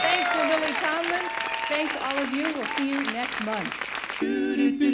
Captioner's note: applause cont; applause continues; applause cuts